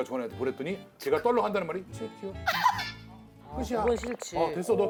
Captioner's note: argh